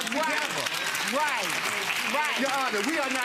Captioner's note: audience applause